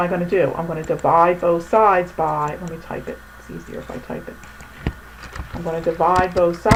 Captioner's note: typing